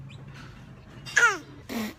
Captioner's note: spits